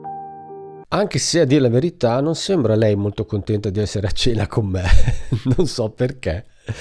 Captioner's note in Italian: risate